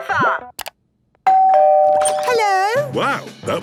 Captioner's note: doorbell ringing